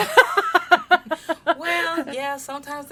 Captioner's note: laughs